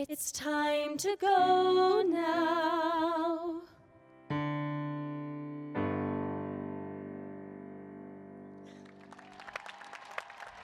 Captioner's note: cheers and applause